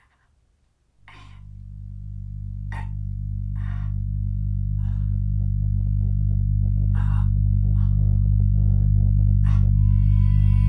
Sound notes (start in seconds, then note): 1.4 eerie dramatic music; 2.6 Anne grunting